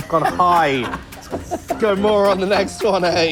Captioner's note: laughs